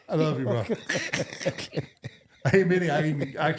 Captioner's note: laughing